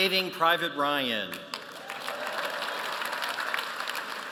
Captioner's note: applause